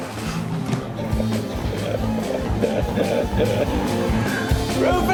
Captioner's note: laughing